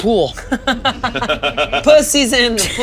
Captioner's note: all laughing